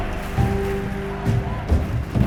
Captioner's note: shouting